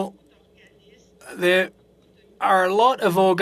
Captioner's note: speaking French